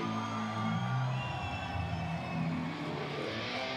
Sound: crowd cheering

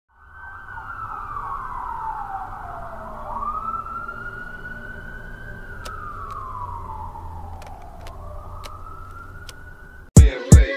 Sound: police car sirens

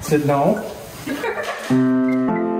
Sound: laughs; plays piano

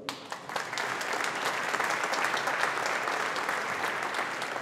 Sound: audience applauding

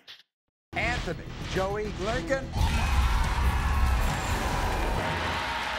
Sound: audience cheers

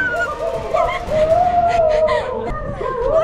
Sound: screams; gasping

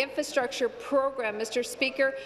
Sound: none

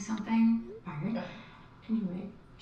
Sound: phone chimes

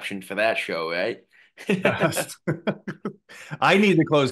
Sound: laughing

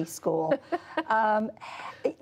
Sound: laughter

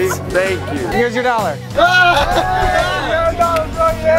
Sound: cheering

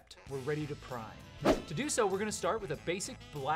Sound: swoosh

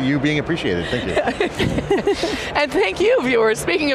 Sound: laughs

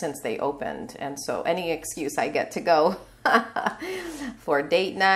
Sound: chuckling

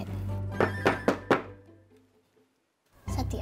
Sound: pan thumps

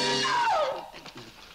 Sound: scream

